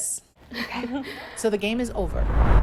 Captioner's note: women laugh softly